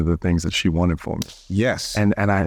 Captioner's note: slapping hands